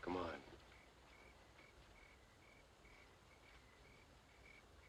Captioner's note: crickets chirping